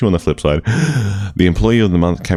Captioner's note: inhale